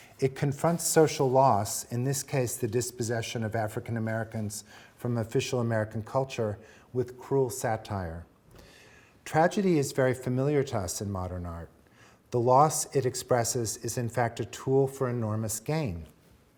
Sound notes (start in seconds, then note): none